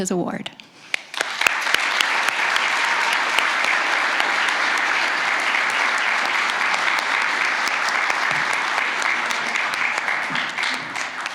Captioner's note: applause